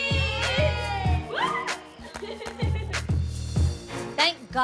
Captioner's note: girls laughing